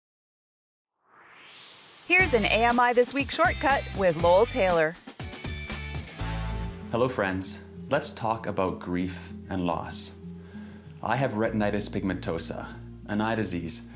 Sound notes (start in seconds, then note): 1.0 swoosh